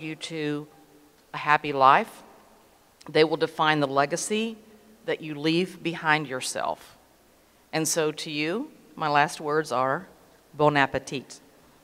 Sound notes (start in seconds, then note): none